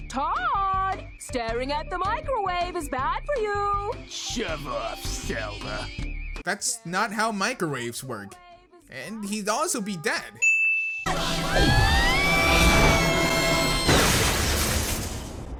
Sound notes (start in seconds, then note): 11.4 screaming; 14.3 crash